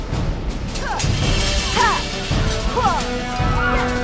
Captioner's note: grunting